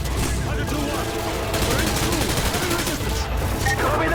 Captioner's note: gun firing